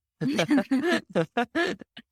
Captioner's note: chuckling